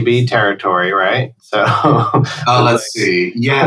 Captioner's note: laughter